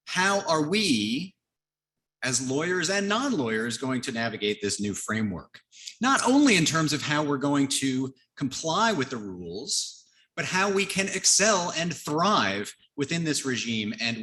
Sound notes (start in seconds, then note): none